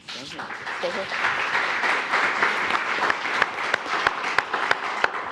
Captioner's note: attendees applauding